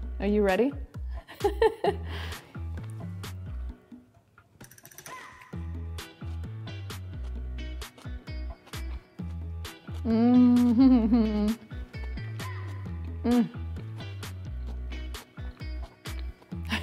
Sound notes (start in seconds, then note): 1.0 upbeat music; 1.3 laughs; 10.0 moans